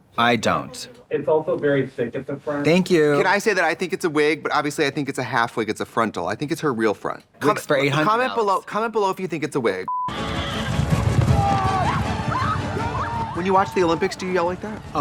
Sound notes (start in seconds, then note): 10.2 exciting music; 10.2 crowd yelling